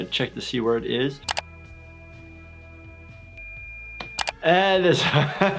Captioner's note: monitor beeps